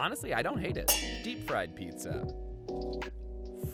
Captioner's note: metal clangs